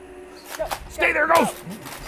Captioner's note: sinister music; gun clacking